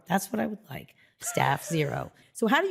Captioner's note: chuckles